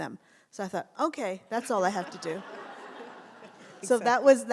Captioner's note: audience laughs